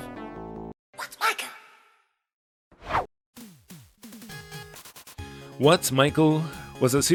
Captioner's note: whoosh